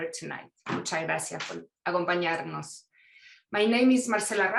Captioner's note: speaking in foreign language